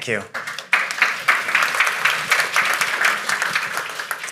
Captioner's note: audience applauding